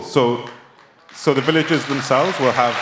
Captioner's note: applause